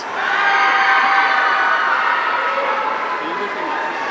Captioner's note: audience cheering